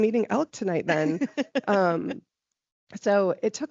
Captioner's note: laughing